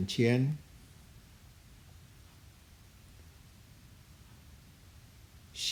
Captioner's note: speaking in Chinese language; speaking in a Chinese language